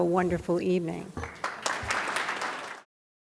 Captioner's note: audience claps